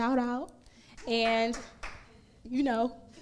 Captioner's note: crowd member applauds